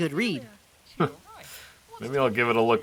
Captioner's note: Jolteon chuckles